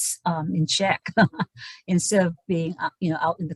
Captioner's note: laughs